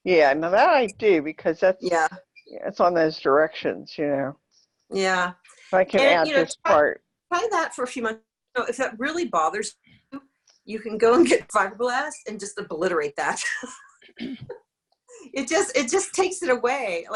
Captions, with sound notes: - Yeah, now, that I do because it's on those directions. But I can add this part. - Try that for a few months. If that really bothers you, you can go and get fibroblast and just obliterate that (laughs). It just takes it away.